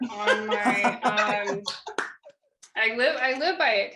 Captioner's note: laughing